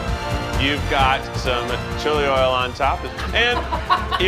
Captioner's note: dramatic orchestra music begins; laughter